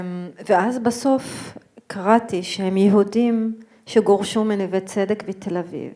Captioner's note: speaking in foreign language